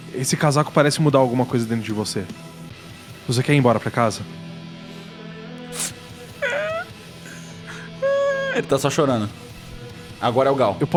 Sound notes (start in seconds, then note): 6.3 cries